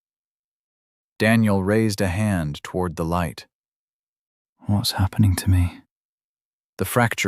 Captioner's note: whispering